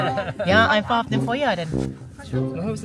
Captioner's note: speaking German